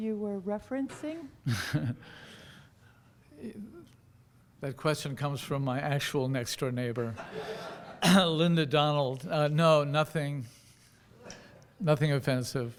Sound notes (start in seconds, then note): 1.5 laughing; 7.2 audience laughing